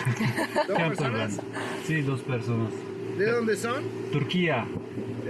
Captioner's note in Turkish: kahkaha